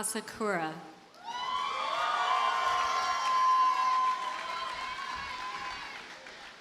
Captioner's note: audience cheers and applauds